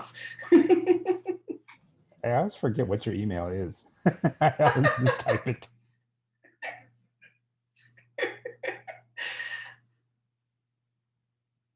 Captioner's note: laughs; laughs